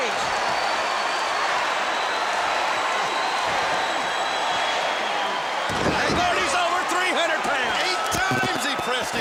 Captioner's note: applause